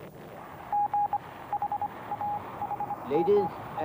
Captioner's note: morse code beeps